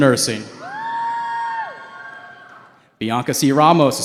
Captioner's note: cheering